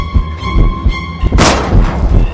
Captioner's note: gun shot